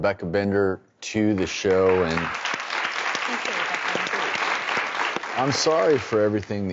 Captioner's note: audience applauds